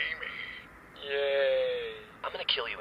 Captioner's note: unenthusiastically